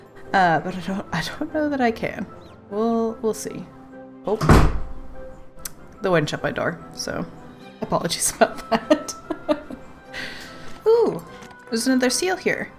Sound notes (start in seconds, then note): 4.5 loud bang; 8.5 laughs